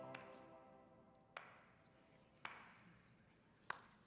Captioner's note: clapping